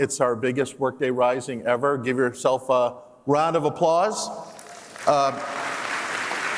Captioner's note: applause